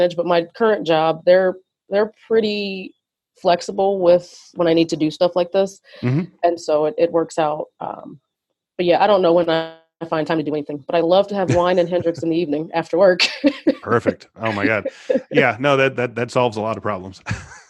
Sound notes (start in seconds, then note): 13.2 laughs